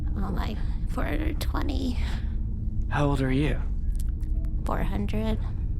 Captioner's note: sighs